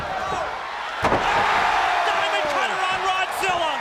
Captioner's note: audience cheers